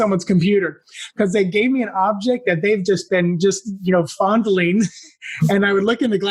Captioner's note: laugh